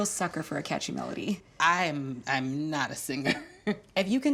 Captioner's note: laughs